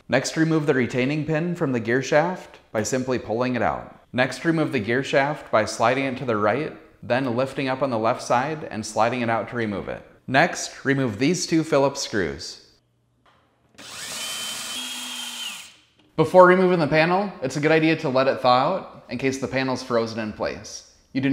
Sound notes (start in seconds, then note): 13.7 drilling